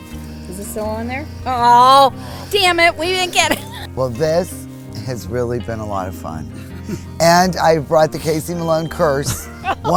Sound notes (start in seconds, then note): 3.2 chuckles; 6.7 speaker chuckles; 8.2 laughs